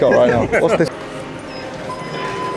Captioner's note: elevator button beeps